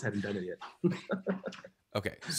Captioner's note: chuckles